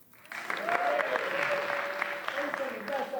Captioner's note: applause